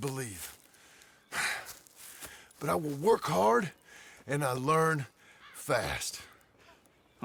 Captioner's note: sighs